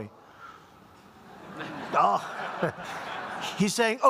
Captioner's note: laughter